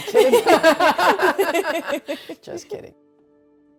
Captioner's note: laughing